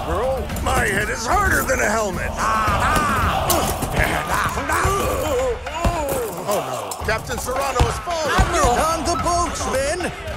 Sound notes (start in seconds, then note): 2.2 they grunt